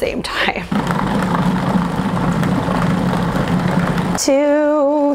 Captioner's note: food processor humming